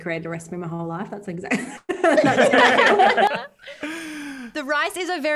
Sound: all laugh

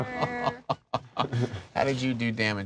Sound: laughing

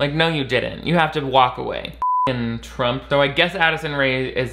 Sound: beep

